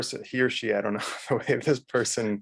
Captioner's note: man laughs